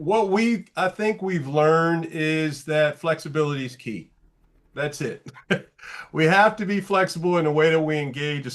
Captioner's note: light laugh